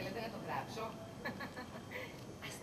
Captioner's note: γέλιο ειρωνικό